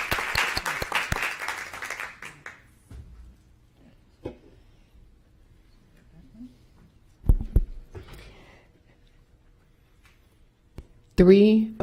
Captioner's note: applause